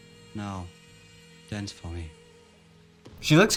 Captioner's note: male Voice From Recorder